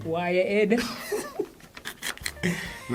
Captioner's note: laughs